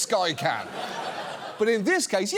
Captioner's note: audience laughs